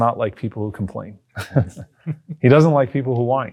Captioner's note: chuckles